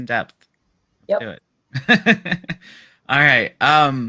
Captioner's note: laughs